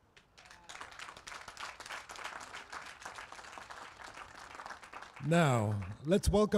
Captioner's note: applause